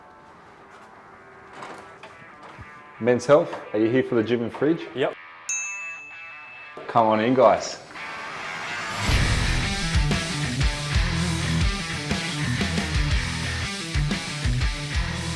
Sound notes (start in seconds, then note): 0.2 soft music; 5.4 chime; 8.8 upbeat music